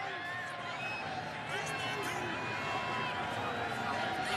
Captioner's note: cheers, applause